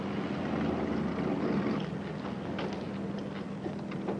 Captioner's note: planes rumble